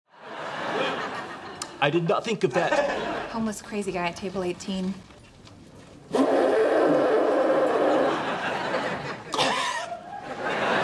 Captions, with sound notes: I did not think of that. Homeless, crazy guy at table 18. [blowing nose] [coughs]